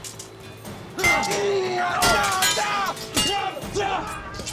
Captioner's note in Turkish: Dövüş sesleri